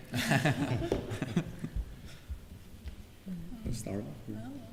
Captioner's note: laughter